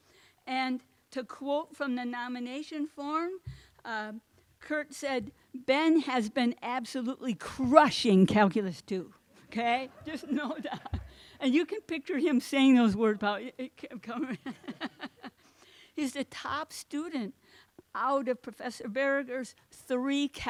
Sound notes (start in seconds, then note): 14.2 laughs